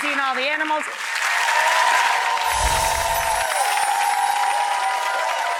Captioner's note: audience cheering